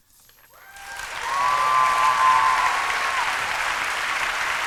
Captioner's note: applause